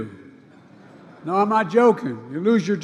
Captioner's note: laughter